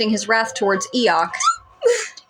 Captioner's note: squeak